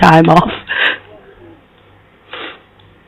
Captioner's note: laughs